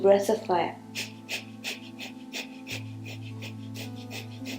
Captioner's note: heavy breathing